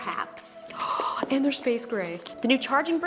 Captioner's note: gasps